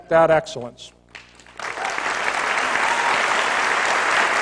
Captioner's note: applause